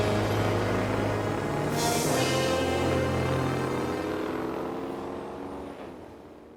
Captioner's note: car speeding off